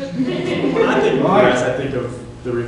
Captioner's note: laughter